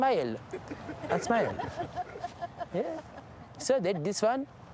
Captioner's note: laughter; 笑声